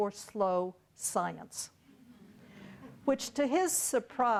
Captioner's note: audience laughing